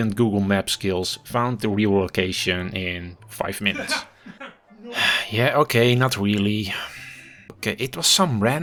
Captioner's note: background laughing NO!!